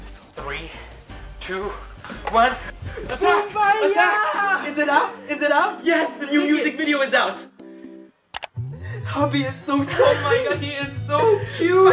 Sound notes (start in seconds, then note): 8.3 mouse Click